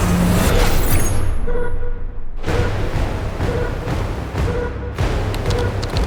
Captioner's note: system beeps; keyboard clacking